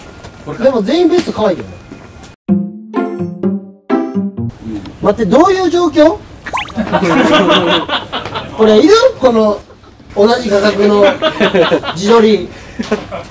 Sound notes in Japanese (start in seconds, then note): 6.7 笑い